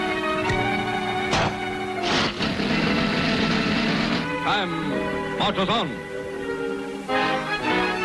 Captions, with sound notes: (gun bangs) - Time marches on!